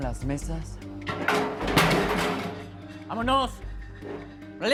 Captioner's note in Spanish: Estruendo